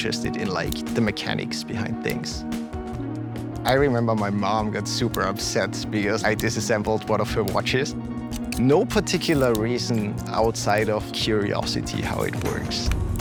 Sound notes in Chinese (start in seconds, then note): 3.5 手錶滴答聲